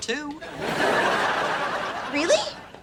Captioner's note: laughs